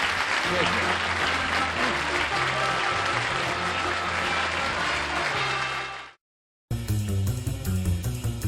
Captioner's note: applause